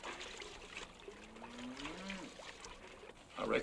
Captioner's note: cow moos